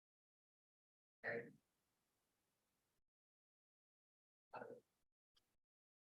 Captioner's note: unmiced voice talking